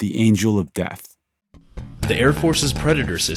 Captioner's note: soundbite of archived recording